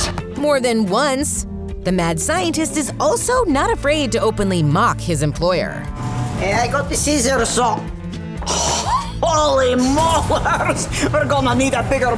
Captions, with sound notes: ...more than once, the mad scientist is also not afraid to openly make fun of his employer. Hey, I got the scissors so- [gasping] Holy molars. We're gonna need a bigger boat.